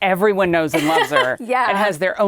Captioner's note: laughing